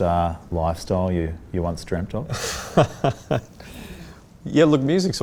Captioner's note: laughs